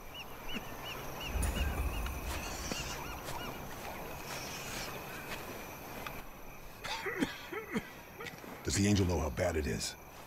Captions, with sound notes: [COUGHING] Does the Angel know how bad it is?